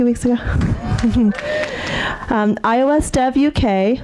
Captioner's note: audience cheering